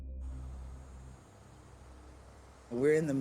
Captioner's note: cicadas screaming